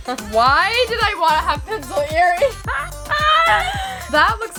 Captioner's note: laughs